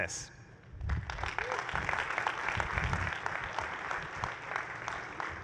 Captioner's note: applause